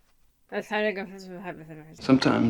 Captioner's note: mumbles